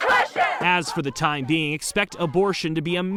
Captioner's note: crowd